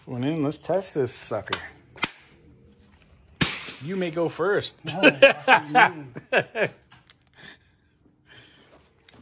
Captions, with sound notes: Going in, let's test this sucker. (gun bangs) You may go first (laugh)